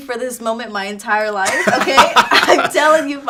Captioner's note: laughing